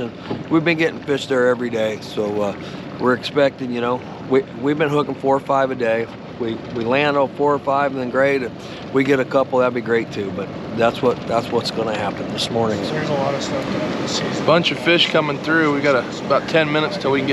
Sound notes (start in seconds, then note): 13.0 background chatter